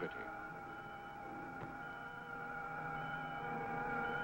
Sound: machine beeping

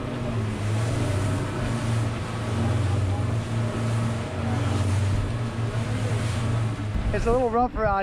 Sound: engines running

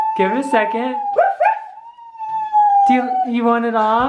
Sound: crying

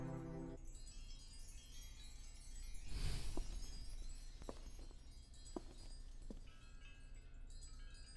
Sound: wind Chimes

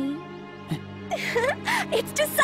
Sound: Milly laughs excitedly

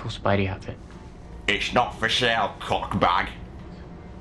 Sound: in a mean voice

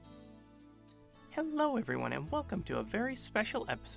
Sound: voiceover

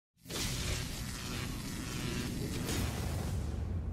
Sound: static buzzes

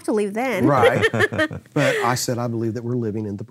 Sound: laughing

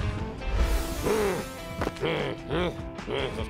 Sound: growls

